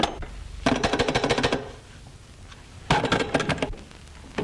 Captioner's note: taps phone